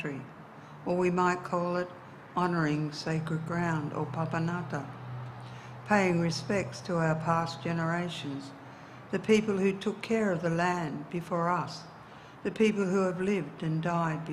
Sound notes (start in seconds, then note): 4.3 speaks in indigenous dialect